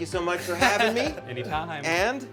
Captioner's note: chuckles